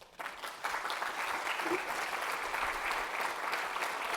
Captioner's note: audience applauding